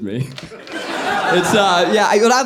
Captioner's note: audience laughing